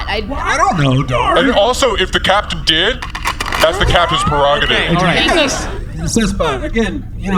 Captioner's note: racks rifle